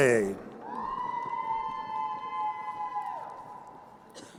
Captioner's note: crowd cheering